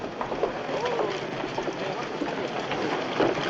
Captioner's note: horse cantering